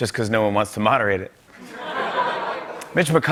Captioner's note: laughter